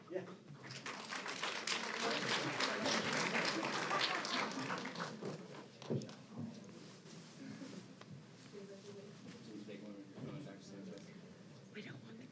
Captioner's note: applause